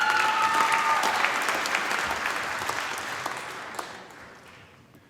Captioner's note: applause